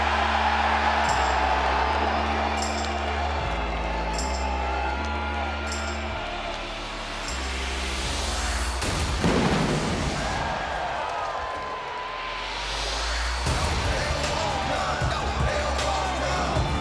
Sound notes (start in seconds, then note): 4.2 audience cheering